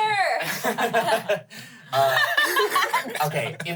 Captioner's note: everyone laughs